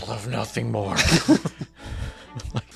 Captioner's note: laughing